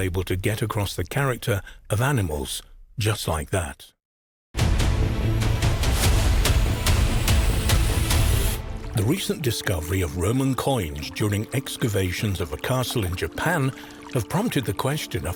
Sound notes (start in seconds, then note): 4.5 intense music; 9.6 water trickling